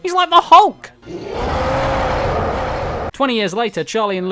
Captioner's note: Hulk roars